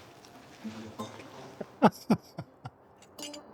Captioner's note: laughter